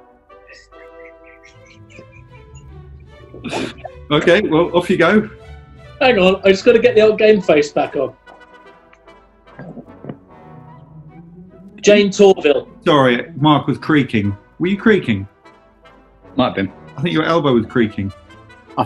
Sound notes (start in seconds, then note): 0.5 giggling; 9.5 creaking noise